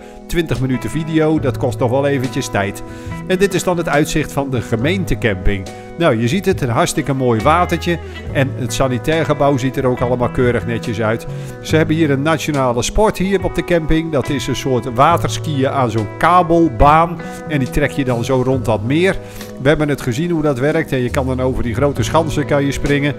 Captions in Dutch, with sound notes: (Voiceover) Twintig minuten video, dat kost nog wel eventjes tijd. (Voiceover) En dit is dan het uitzicht van de gemeentecamping. (Voiceover) Nou je ziet het, een hartstikke mooi watertje. (Voiceover) En het sanitairgebouw ziet er ook allemaal keurig netjes uit. (Voiceover) Ze hebben hier een nationale sport op de camping. (Voiceover) Dat is een soort waterskiën aan zo'n kabelbaan. (Voiceover) En die trek je dan zo rond dat meer. (Voiceover) We hebben gezien hoe dat werkt, je kan dan over die grote schansen springen.